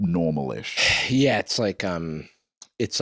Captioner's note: sighs